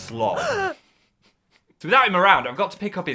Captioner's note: speaker 2 gasping